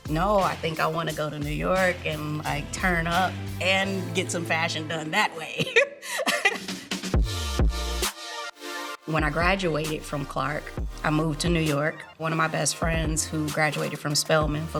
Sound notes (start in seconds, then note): 5.4 laughing; 7.1 upbeat music